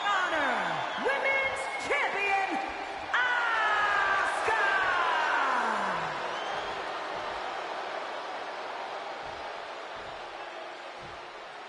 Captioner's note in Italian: urlo